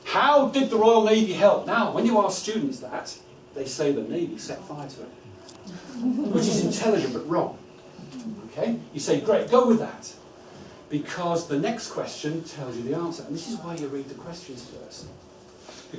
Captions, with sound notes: How did the Royal Navy help? When you ask students that, they say the Navy set fire to it. (laughter) Which is intelligent but wrong. You say, great go with that, because the next question tells you the answer. This is why you read the questions first.